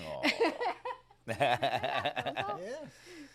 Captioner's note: laughs